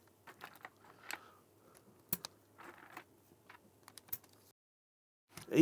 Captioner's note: clicking